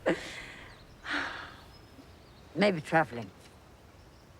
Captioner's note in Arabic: تنهدات